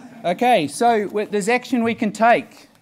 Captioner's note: laughing